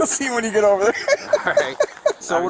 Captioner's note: laughing